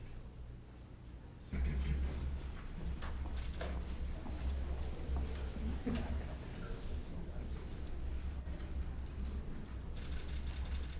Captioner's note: applause